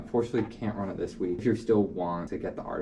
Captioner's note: heh